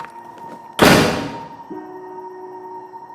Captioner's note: door slamming